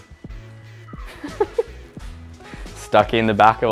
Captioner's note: laughs